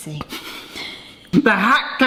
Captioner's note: snickers